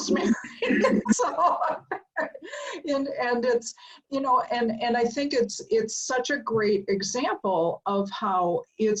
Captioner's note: laugh